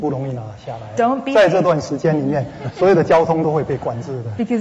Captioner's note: speaking Mandarin; speaking Mandarin